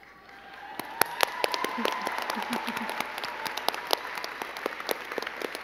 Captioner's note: crowd cheering and clapping